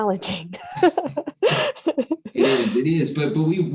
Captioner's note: chuckles